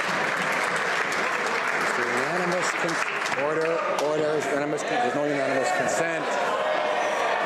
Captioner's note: some Applause